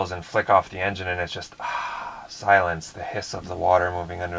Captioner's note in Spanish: suspiros